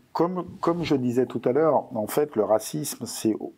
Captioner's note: non-english speech